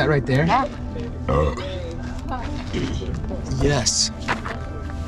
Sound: burps

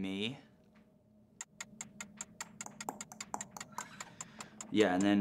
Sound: timer ticking

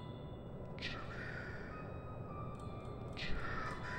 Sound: eerie piano music; demonic Voice

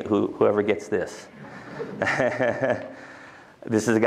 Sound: laughter

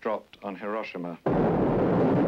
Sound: nuclear bomb exploding

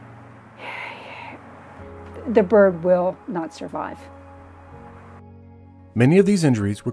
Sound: sighs heavily

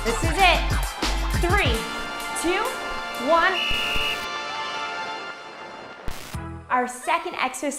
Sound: whistle blows

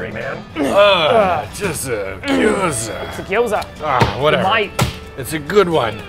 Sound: grunting

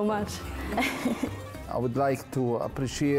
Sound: chuckling

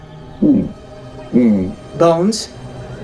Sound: mumbles affirmative

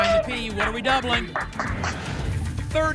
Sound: whoosh

